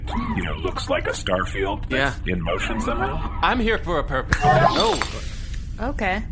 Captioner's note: snaps fingers